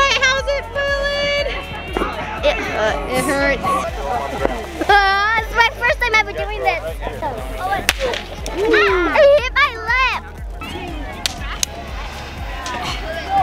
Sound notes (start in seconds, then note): 5.0 laughs; 7.8 firework bursts